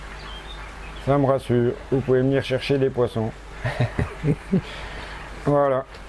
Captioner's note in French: rire